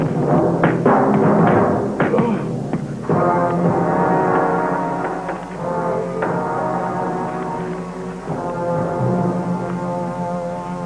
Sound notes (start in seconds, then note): 4.2 knocking